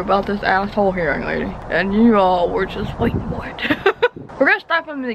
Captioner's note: laughs